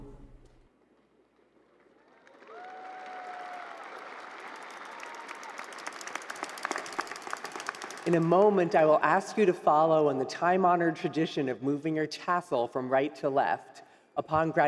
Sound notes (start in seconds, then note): 8.3 applause